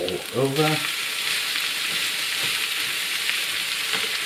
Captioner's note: sizzling